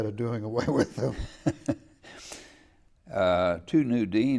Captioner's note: laughing